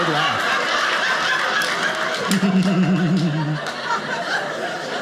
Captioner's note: audience laughing